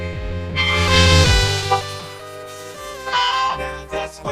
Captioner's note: screeching; squawking